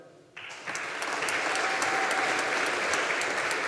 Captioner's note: audience applauding